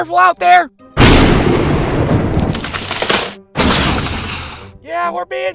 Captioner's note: thunder, tree snaps with crack, crash